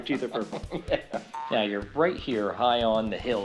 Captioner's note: spring bouncing